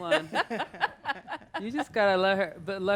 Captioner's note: laughs